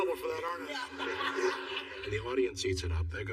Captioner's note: laughter